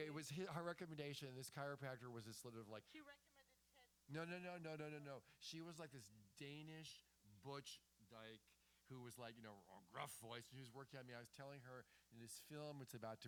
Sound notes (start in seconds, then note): 2.7 off mic; 8.5 deep, gravely